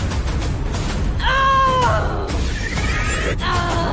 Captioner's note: shouting